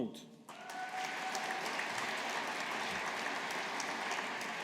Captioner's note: audience applauding